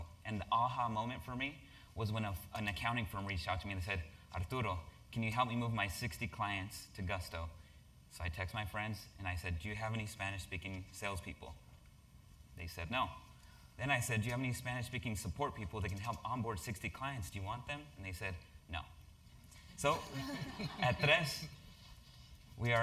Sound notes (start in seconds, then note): 19.9 laugh